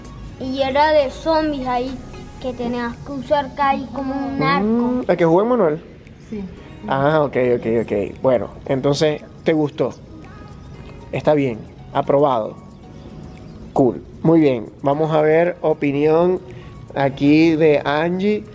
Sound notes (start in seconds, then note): none